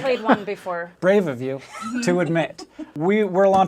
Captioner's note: laughs